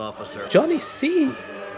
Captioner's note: cheering